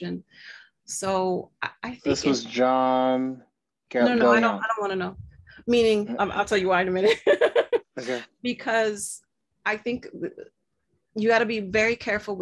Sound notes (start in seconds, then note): 7.1 laughs